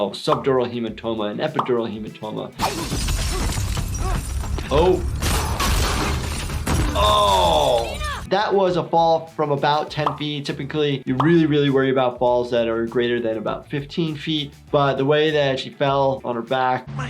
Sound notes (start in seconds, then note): 2.6 glass breaking; 5.1 gun shots